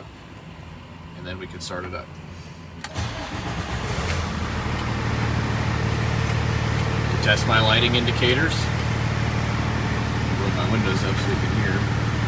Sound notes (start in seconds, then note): 2.8 engine starting